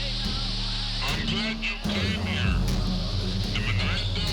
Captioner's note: voiceover